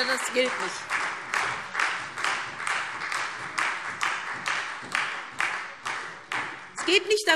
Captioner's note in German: Beifall SPD und Freie Demokraten